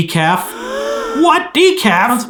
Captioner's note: gasps